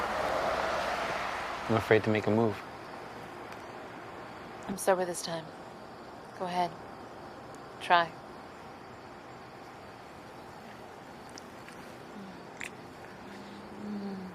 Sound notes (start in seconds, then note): 12.5 kissing